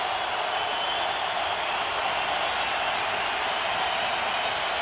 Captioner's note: cheering